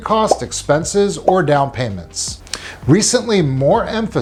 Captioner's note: graphic blipping